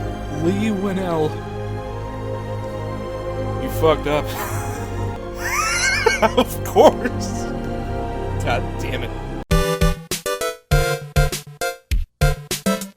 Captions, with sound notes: "Leigh Whannell... You fucked up. *wheeze*" "*laughter* OF COURSE! God dammit."